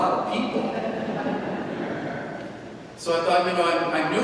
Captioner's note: congregation laughing